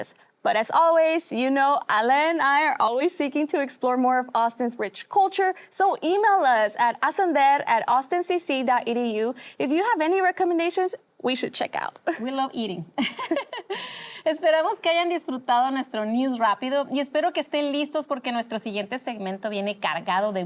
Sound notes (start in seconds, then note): 13.0 risas